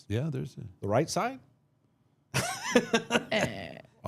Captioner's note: laughs